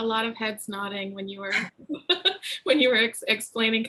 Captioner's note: laughs